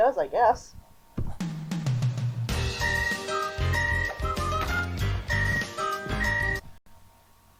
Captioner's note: whistling